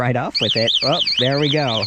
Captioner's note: alarm whistling